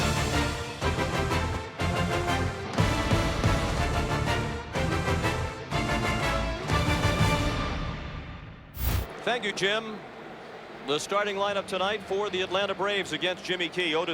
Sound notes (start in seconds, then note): 0.3 applause; 0.6 cheering and Applause